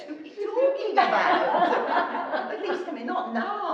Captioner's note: laughing